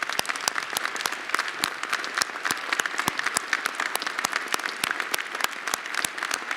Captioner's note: applause